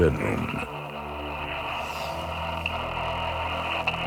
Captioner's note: static on monitor